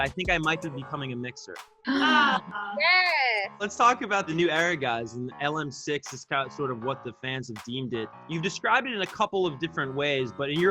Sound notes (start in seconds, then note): 1.9 they gasp